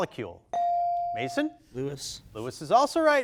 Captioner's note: bell dings